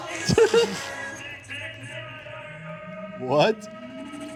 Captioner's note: upbeat music; snickering